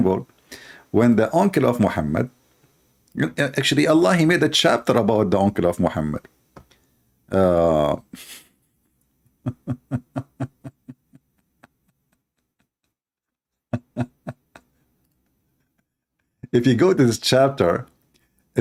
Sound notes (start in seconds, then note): 9.4 Ketawa